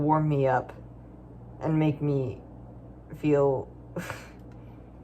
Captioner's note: snickers